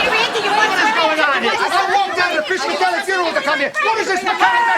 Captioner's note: all screaming together